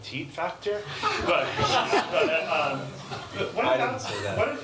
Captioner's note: laughter